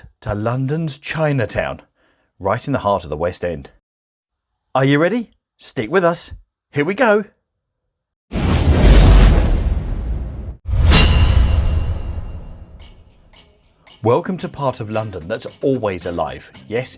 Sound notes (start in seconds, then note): 8.6 dramatic music; 8.6 logo clanging